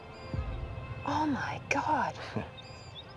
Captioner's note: chuckles